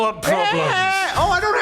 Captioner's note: Moped Yells